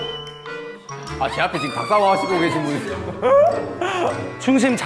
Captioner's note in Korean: ㅋㅋ